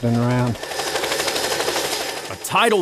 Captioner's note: helicopter rotor